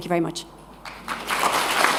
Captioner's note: applause